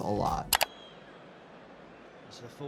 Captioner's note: keyboard clicking